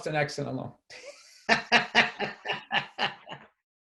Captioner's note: laughs